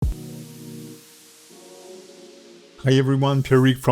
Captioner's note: air whooshes